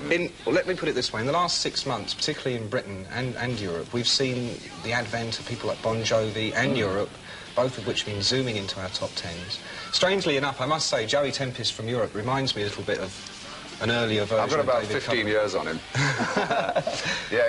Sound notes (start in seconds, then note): 15.9 laughs